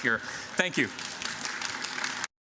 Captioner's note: applause